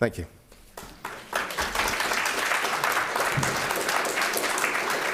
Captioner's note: audience applauds